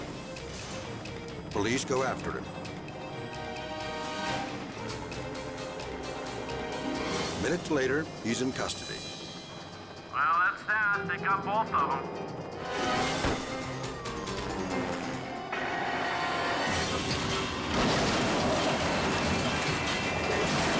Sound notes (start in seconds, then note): 4.8 helicopter blades whirring; 12.5 dramatic music; 17.9 truck crashing